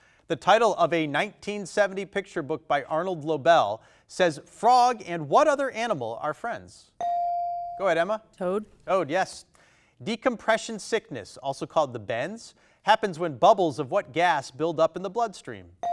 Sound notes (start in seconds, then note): 7.0 bell dings